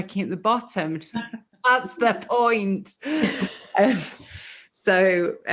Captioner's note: laughs